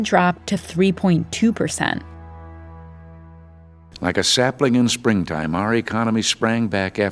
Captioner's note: soundbite of archived recording